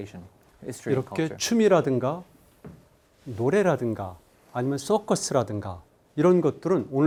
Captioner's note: speaking in Korean